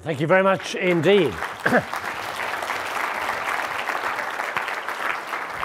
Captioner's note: audience clapping